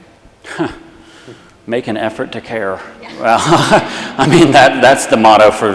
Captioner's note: laughs